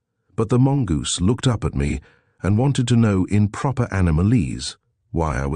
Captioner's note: in proper animalese